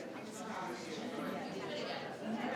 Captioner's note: people chattering